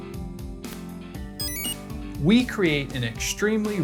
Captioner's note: enter chime